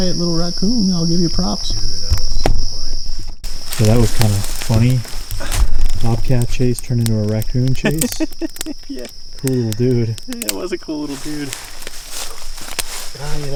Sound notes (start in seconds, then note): 7.5 laughs